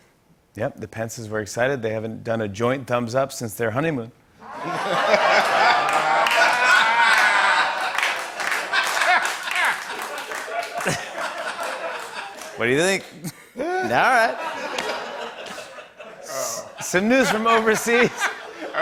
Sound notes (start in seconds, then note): 4.4 laughter and applause